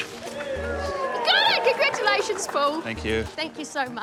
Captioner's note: audience cheers